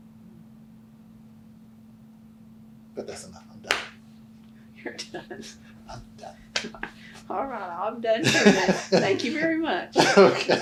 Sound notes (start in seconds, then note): 4.8 laughs